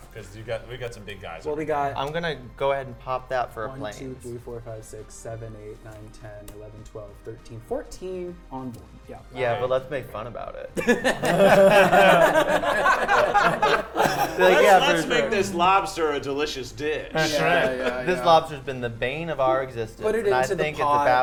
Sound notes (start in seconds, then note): 10.8 players laughing